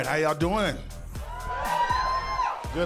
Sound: cheering

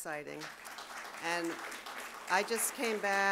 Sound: audience claps

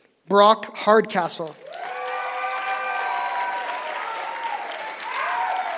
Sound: cheering

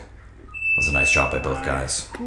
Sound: alarm beeps

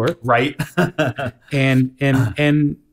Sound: laughs

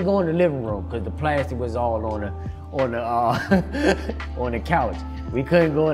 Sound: chuckles

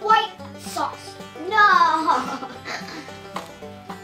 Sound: laughs

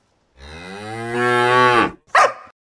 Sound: cow moo-ing; woof!

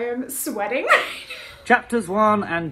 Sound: laughs

